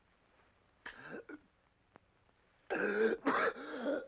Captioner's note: gasps; coughs violently